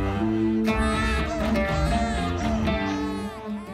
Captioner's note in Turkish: Ağlıyor